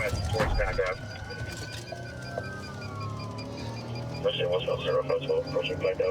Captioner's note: sirens wailing